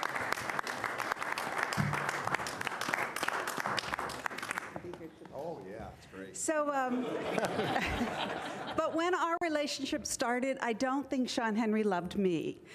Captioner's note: applause